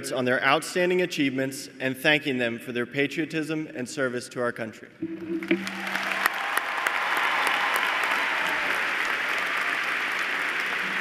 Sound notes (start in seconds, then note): 5.5 cheers and applause